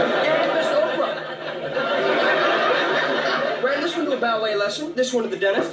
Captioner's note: laughter